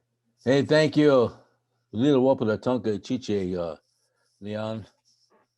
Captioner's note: speaking in foreign language